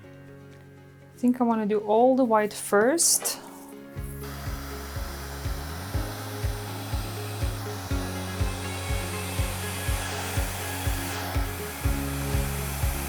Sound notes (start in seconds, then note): 4.9 bright music; 4.9 fan whirring